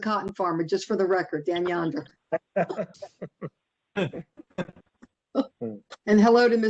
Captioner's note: laughter